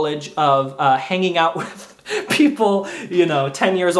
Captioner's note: laughs